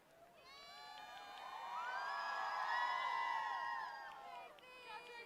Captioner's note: applause